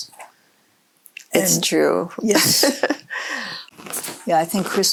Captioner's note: laughs